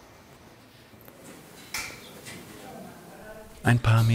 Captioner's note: quiet babble of voices